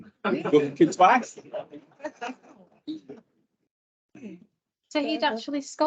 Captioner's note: panel laughs